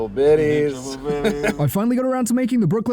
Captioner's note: chuckles